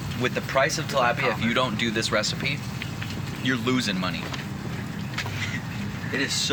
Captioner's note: laughs